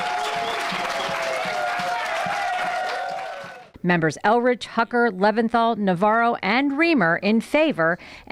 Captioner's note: cheers and applause